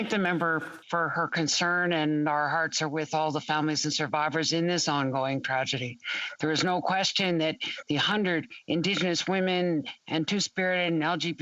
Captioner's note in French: voix de l'interprète